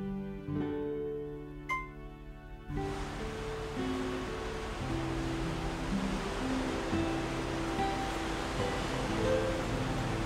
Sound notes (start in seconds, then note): 1.7 glass clinks; 2.7 waves rush